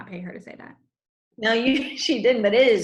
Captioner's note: laughs